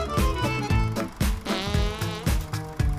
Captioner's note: passing gas sound